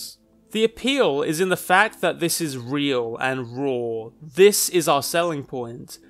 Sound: none

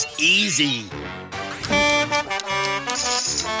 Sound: horn honking

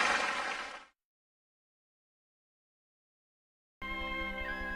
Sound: silence

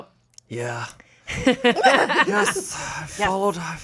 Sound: everyone laughs

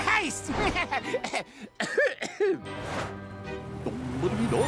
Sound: evil laughter, coughs

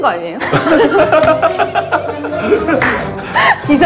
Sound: laughing

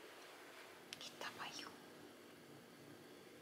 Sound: whispering

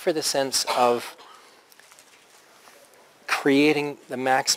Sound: pause

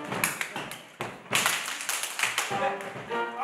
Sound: claps

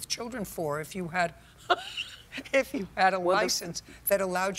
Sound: laughs

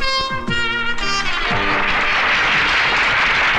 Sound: applause

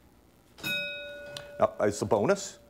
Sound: ding

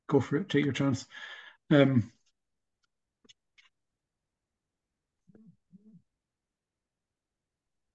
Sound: silence

